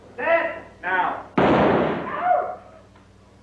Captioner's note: explode